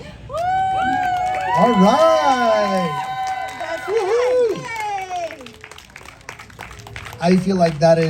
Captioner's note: applause